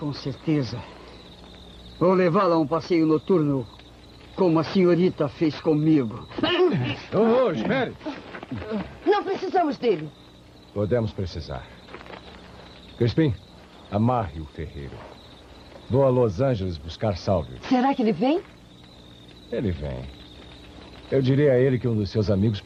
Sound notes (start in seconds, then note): 5.2 all yelling